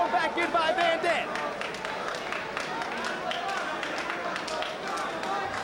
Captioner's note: spectators applauding